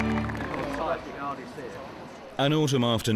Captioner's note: people chattering